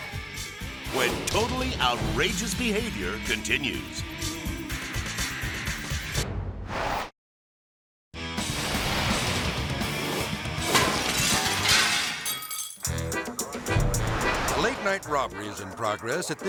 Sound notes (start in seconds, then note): 0.0 rock music; 6.8 air swoosh; 8.2 intense rock music; 8.5 glass shattering; 12.6 frolicking music; 13.2 air swoosh